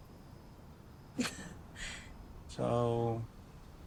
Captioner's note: laughs